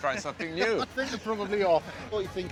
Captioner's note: chuckles